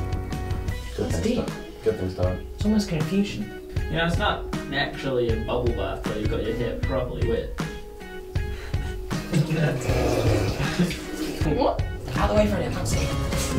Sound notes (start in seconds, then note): 7.8 sighing; 9.2 splashing, snorting